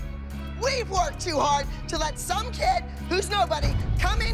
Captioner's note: yelling